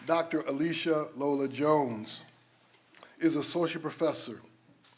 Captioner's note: none